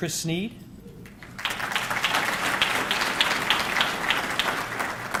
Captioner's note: audience clapping